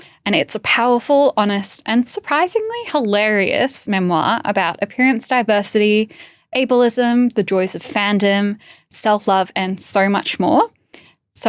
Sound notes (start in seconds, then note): none